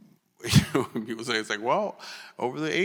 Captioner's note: chuckles